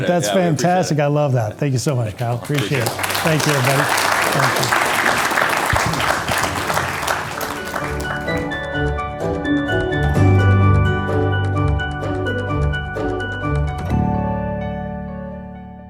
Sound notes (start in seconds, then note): 5.9 audience applauding; 6.2 upbeat music